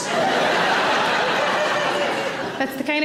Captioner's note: audience laughing